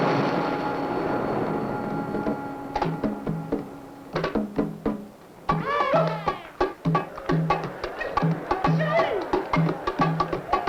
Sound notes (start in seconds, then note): 5.6 men yelping; 7.7 people chatting